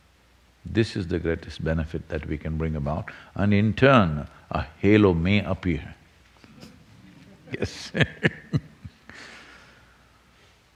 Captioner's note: laughs